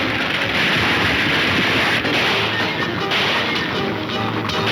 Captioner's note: gunshots banging